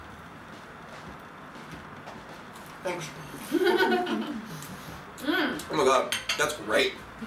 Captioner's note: laughter